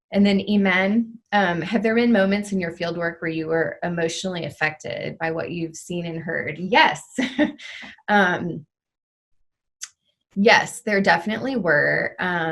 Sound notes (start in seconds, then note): 7.5 chuckles